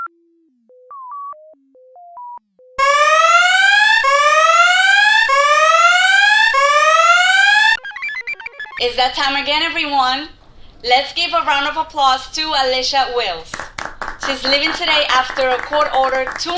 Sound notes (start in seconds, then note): 2.8 alarm blares; 6.6 computer chirps; 13.4 patients applaud